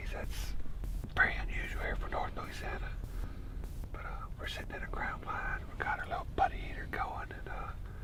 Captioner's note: none